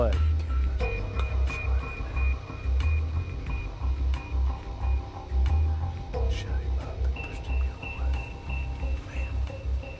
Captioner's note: whispering